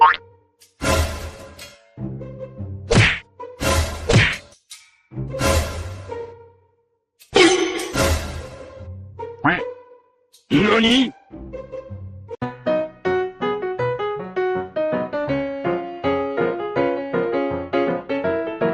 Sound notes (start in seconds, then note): 0.0 quacks; 0.0 upbeat Music; 10.3 speaking In Foreign Language; 10.5 upbeat Music